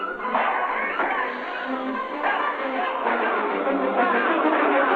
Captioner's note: yelling and whistling; dramatic music